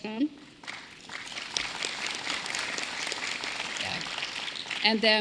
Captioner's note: applause